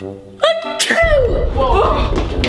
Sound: sneezes

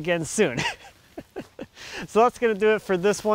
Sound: laughs

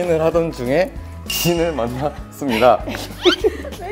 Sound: cracking up

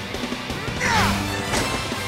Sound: grunting

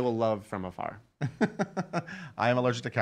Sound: laughing

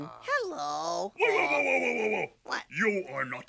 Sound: stammers

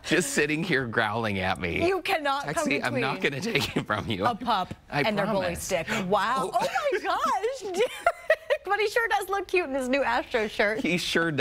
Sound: laughter

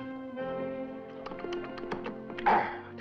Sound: smacking

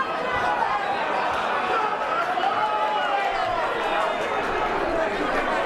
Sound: crowd shouting and clapping

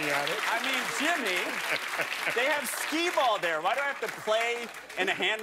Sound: laughter

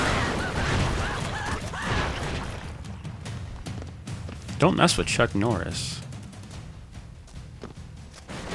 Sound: laughs

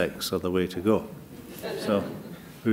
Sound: laughter

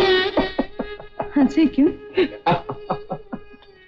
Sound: laughs; laughs

